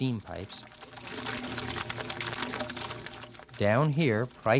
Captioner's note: water trickles